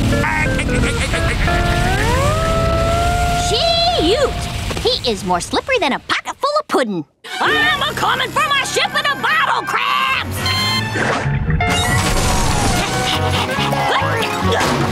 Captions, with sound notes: [laughing] Shoot! He's more slippery than a pocket full of pudding. I'ma comin' for my ship in a bottle Krabs! [panting] [grunting]